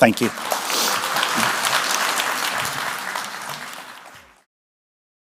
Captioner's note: applause